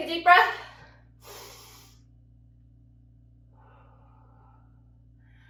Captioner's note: breathes deeply